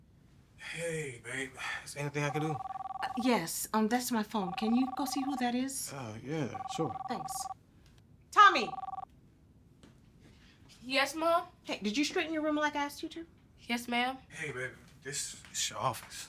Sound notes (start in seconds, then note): 2.2 phone ringing